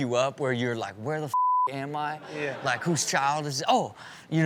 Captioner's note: beep